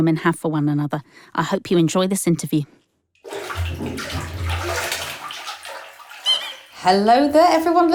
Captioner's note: sound of a rubber duck squeaking